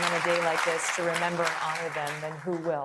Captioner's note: applause